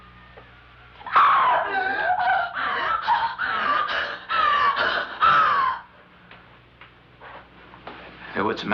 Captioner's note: gasping